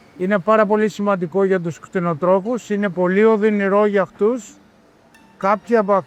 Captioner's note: speaking in foreign language